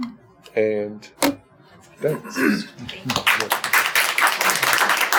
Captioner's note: group applauding